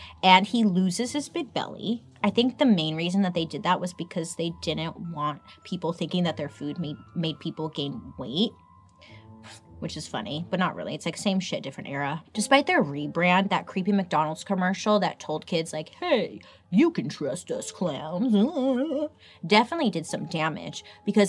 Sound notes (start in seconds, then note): 17.4 mimics silly laugh